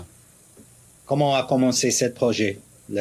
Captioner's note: speaks in French